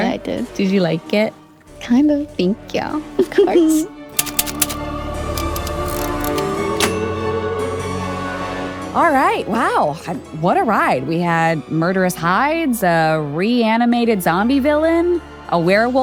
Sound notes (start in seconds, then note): 3.9 giggles; 4.1 typewriter clicks; 4.7 eerie music